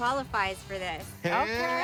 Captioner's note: crowd cheers